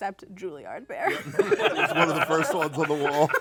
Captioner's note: laughter